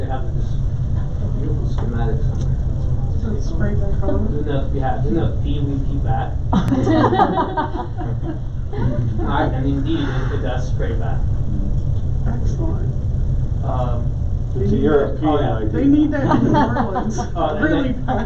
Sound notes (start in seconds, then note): 6.5 laughter